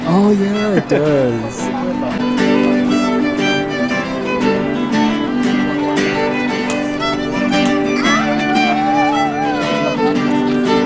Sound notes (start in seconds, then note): 2.5 cheerful music; 2.5 crowd chattering